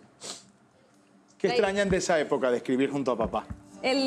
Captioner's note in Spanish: none